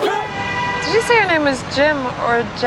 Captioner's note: soldiers yelling; car horns honking